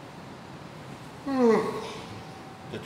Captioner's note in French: bâillement